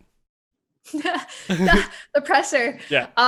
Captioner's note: laughs